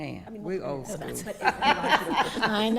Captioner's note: laughing